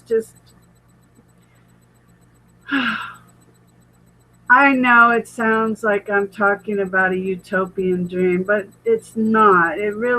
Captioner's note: sighs